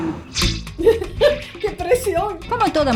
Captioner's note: laugh